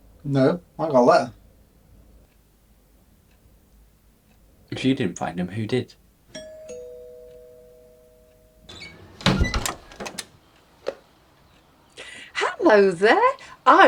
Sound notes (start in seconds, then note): 6.3 doorbell rings; 8.6 door creaks